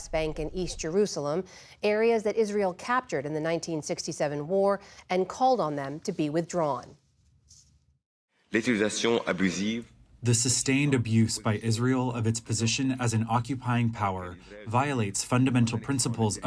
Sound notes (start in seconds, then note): 9.8 through translator